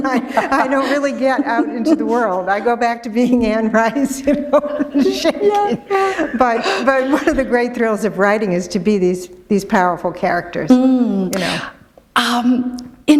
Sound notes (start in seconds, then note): 3.8 laughter